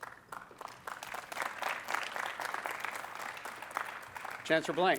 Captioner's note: applause